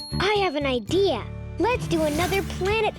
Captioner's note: light bulb dinging